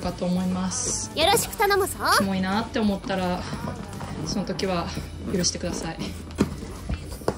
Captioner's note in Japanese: 懇願